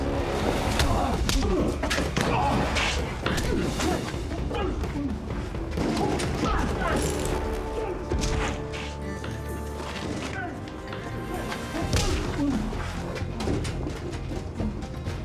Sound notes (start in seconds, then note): 3.3 punch; 12.0 punch; 12.7 groan